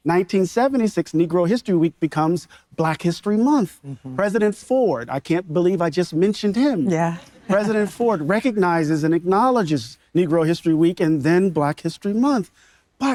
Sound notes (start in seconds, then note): 7.2 audience members laughing